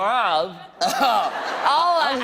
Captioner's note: laughter